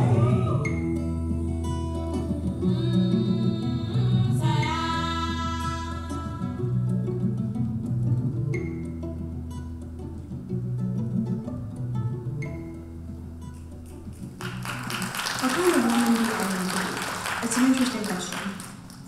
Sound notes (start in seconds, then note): 13.8 audience applauding